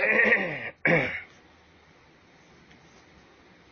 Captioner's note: clears throat